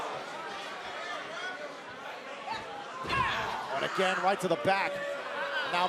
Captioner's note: crowd chatter